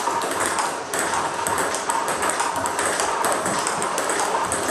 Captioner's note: ball ping pong hitting continues